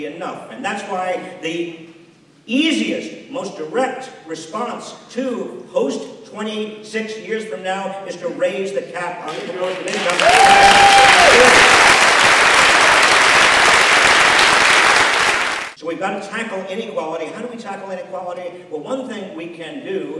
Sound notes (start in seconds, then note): 13.9 applause